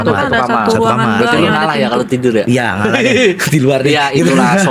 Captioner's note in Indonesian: tertawa